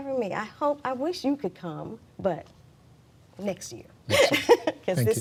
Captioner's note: laughs